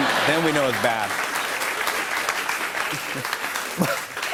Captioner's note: applause